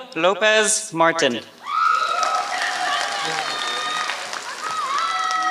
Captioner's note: applause